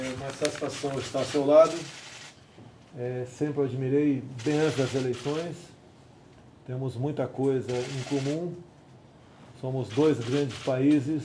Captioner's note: speaks Portuguese